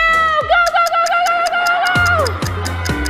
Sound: stopwatch ticking; everyone shouting

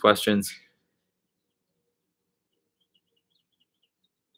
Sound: bird chirping

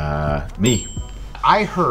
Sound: ding

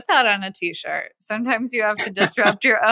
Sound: <Laugh>

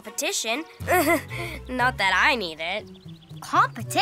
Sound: chuckles

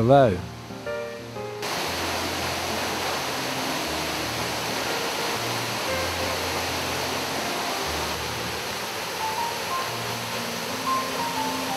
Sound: waterfall sounds

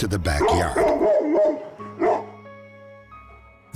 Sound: barking

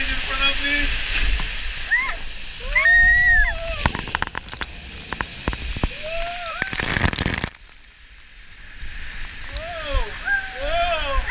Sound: water Splashing

